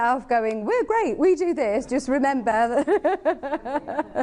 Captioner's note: laughing